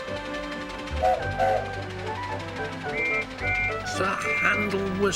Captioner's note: Sir Handel whistles, George whistles back; Sir Handel whistles again, George whistles back again